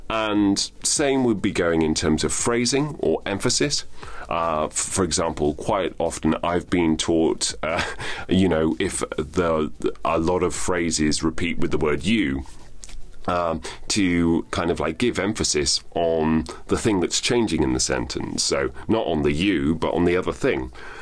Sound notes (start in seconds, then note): 7.6 chuckles